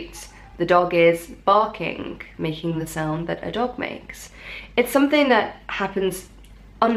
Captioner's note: making the sound that a dog makes